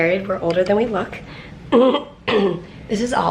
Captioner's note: clears throat